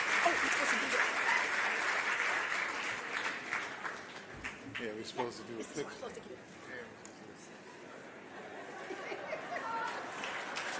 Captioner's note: applause